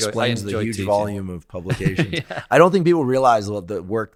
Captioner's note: chuckling